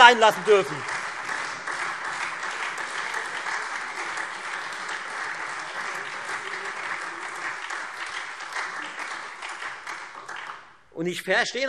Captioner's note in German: Beifall Freie Demokraten und SPD